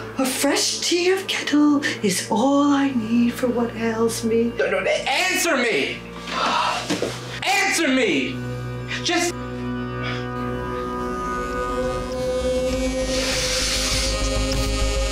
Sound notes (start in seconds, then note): 6.1 woman exhales; 11.8 music intensifies